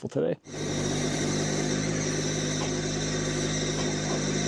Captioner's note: machine rumbling